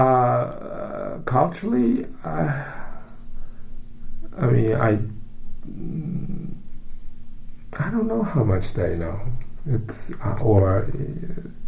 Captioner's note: sighs